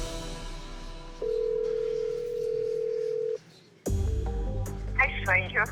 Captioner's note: line trilling